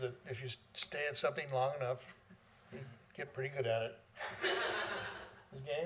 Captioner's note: laughter